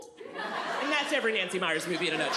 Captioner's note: audience laughs